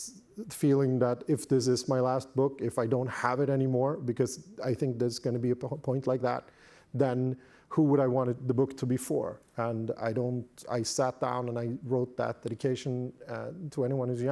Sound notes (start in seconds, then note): none